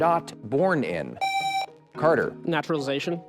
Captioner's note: buzzer